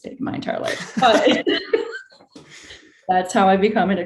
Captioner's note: both laughing